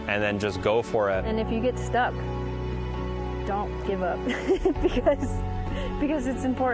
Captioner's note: laughing